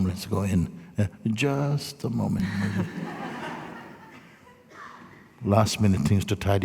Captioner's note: laughter